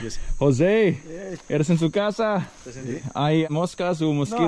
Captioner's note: speaking in foreign language